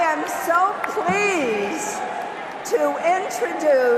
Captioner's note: cheers and applause